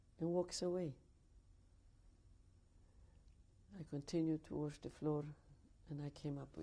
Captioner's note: pauses for 3 seconds